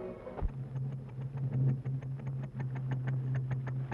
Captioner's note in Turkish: Tek silindirli motorun egzos sesi